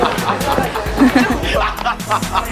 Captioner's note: laugh